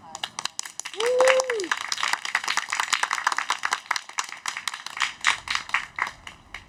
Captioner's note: cheering